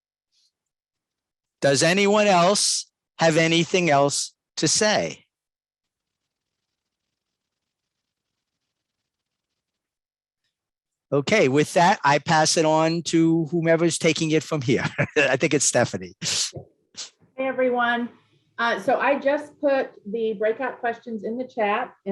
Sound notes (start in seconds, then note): 14.6 laughs